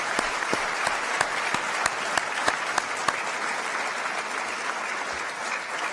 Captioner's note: applause